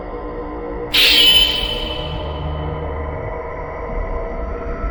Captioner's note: wind whooshing